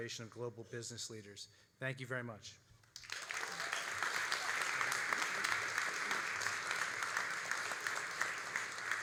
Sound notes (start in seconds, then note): 2.9 all applauding